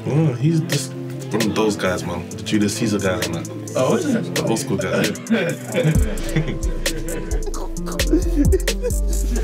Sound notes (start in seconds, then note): 4.6 laughing; 6.6 melodic electronic music; 7.9 laughing